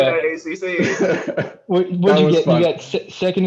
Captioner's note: laughter